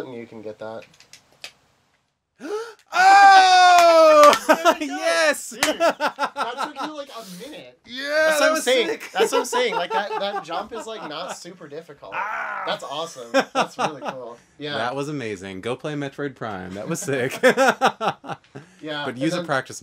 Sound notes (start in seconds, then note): 2.4 gasps; 3.6 they laugh; 5.8 laughs; 9.6 laughs; 12.1 screams; 16.8 laughs